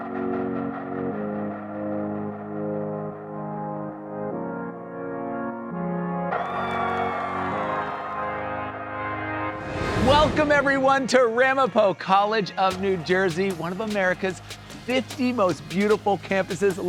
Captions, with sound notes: (inspiring music) (students cheering) - Welcome, everyone, to Ramapo College of New Jersey, one of America's 50 most beautiful campuses.